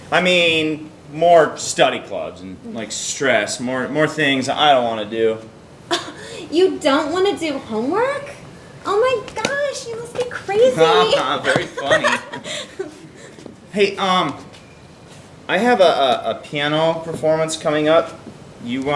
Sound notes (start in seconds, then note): 5.9 scoffs; 10.5 laughs